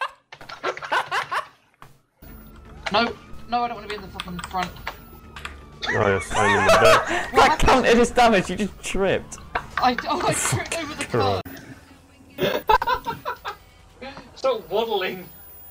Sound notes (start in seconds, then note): 5.8 both laughing; 12.4 laughs manically